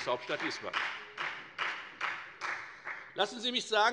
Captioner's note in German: Beifall bei der FDP